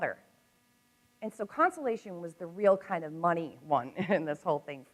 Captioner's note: chuckles